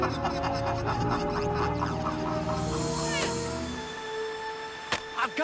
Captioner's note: laughter echoing